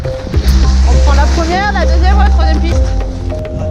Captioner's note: in french